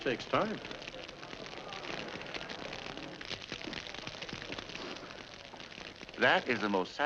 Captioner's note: fire crackling